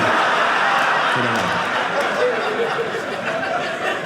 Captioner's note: audience laughing